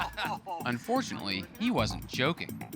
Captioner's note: laughs